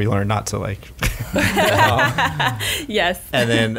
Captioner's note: laughs